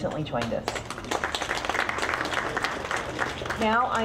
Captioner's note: audience clapping